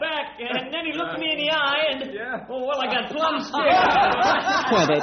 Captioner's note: laughter